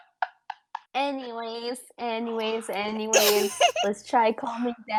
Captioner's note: whispers; giggles; giggles more; whispers